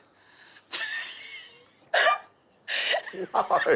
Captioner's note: laughing